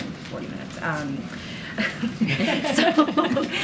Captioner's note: laughter